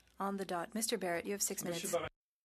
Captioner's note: speaking French